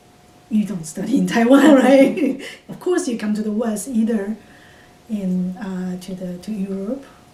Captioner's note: laughs